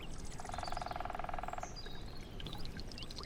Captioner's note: woodpecker pecking; insects chittering